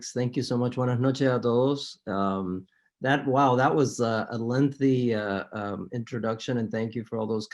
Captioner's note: spanish